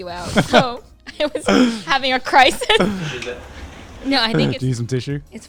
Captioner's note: laughs